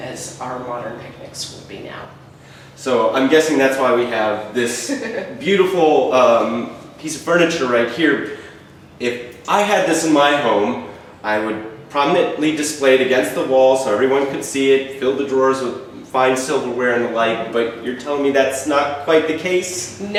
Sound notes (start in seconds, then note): 4.7 chuckles